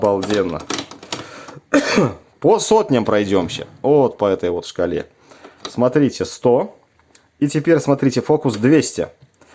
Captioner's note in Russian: откашливается